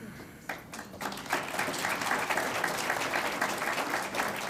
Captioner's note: audience applauds